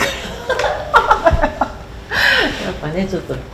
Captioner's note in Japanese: 笑い